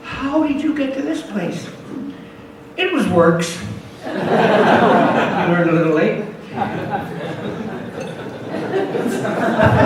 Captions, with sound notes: How did you get to this place? It was works. [audience laughs] Learned a little late. [audience laughs]